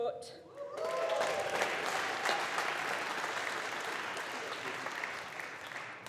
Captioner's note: audience applauding